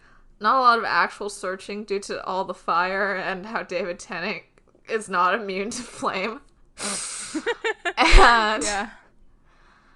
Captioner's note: laughs